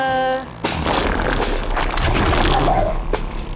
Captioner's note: interference and loud bangs; long and looud baby trumps